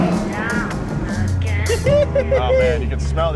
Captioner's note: giggles